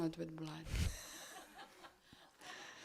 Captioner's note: laugh